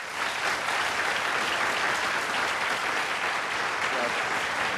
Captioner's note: applause